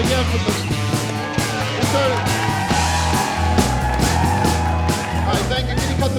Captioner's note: crowd cheering